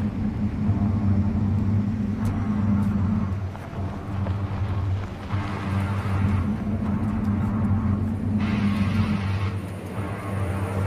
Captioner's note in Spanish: hm♪♪♪hm